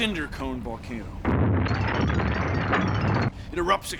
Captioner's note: explosion